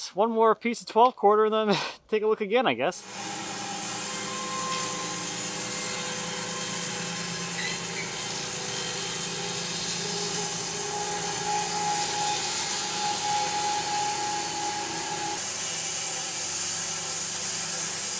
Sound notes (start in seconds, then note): 3.9 saw revving